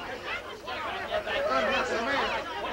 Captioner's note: all clamoring